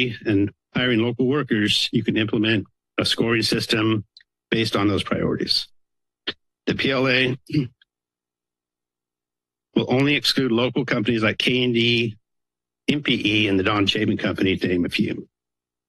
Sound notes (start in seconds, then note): 7.1 coughs